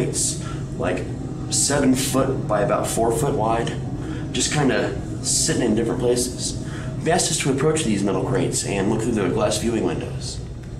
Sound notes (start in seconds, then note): none